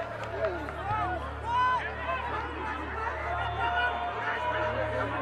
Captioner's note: shouting